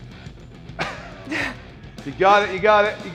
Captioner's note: Sol chuckles